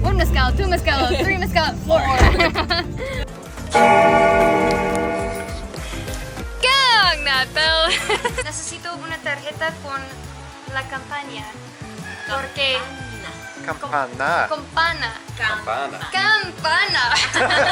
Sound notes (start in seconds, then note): 3.7 bell rings; 8.6 speaking in foreign language; 17.0 group laughing